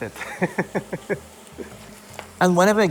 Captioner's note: laughs